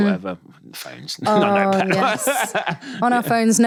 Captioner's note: laughing